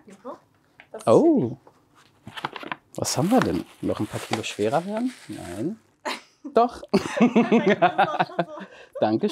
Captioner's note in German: beide lachen